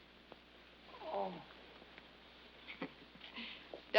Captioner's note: laughs